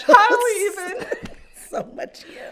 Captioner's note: laugh